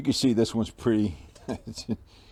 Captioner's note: laughing/chuckles